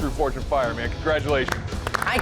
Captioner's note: applause